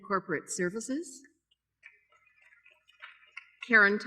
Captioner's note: applause